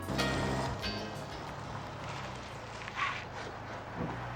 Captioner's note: engine roaring